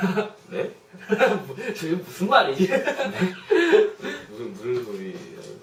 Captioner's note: laughs